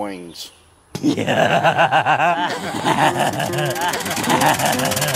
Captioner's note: roaring laughter